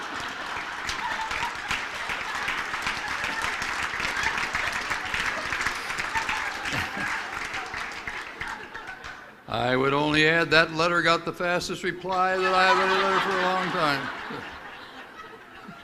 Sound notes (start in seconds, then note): 2.4 applause; 2.4 laughter